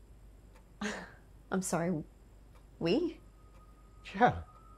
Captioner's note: chuckles softly